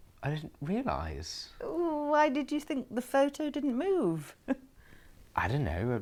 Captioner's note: Aquila laughs